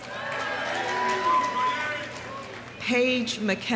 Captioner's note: audience cheering; audience applauding